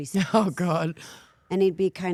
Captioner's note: laughing